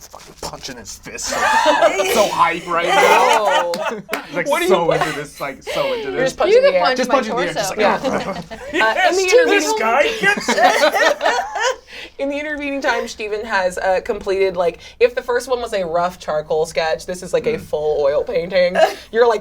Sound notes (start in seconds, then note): 1.2 all laugh; 10.9 all laugh